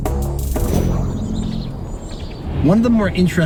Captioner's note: birds singing